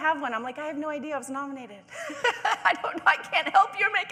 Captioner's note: laughing